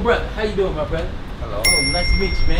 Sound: bell rings

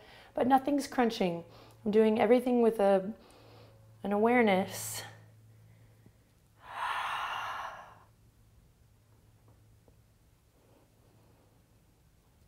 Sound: breath

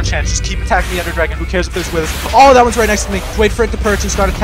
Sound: wither spawns, explosions

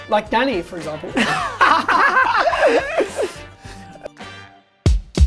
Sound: laughs

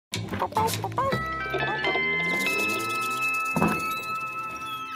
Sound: Blue barks while Blue's Clues intro music finishes

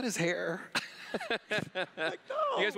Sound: laughs

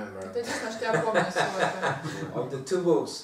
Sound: hahaha

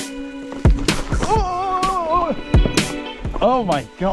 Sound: exclaims loudly

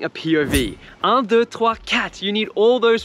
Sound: speaking in foreign language

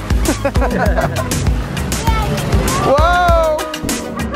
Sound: laughing

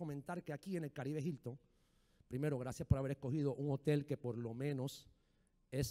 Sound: speaking in foreign language

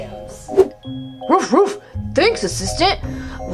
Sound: dog barks

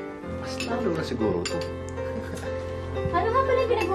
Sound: chuckles

